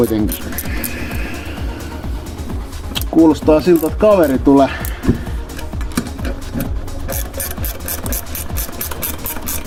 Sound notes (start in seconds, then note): 4.8 car sound from the outside